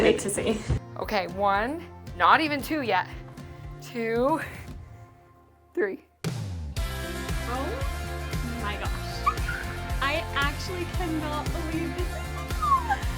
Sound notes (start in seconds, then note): 6.7 upbeat music continues; 9.2 squeaks